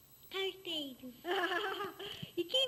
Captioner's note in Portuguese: risos